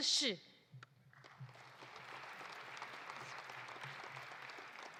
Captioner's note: audience applauding